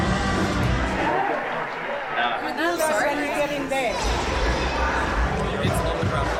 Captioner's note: chatter